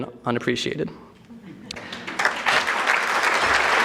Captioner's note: audience clapping